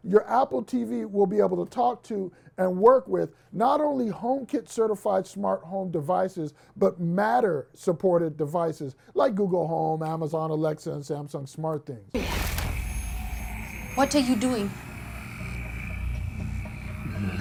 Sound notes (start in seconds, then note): 12.2 static whirring; 14.8 suspenseful music